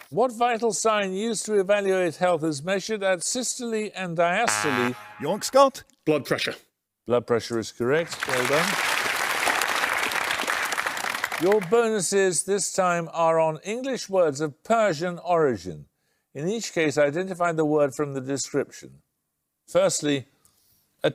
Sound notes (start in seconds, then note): 4.4 buzzer; 7.9 applause